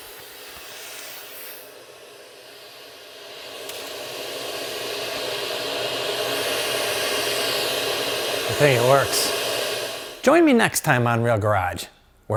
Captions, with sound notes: (machinery whirring) I think it works. Join me next time on Real Garage,